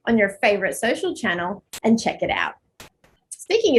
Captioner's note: none